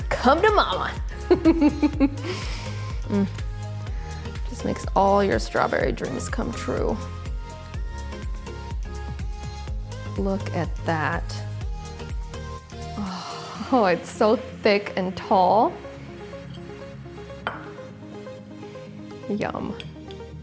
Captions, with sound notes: Come to momma. (laughing) It just makes all your strawberry dreams come true. Look at that. It's so thick and tall. Yum.